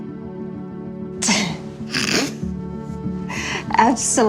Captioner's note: laughing